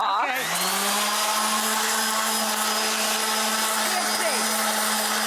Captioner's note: metal grinding